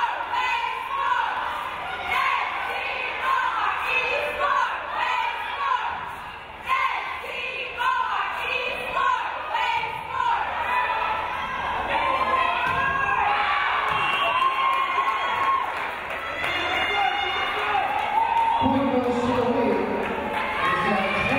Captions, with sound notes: (crowd cheering) Point goes to Wave,